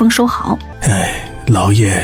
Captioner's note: sigh